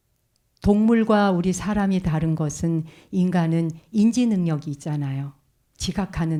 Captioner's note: speaking in Korean